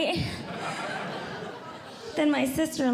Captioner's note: audience Laughing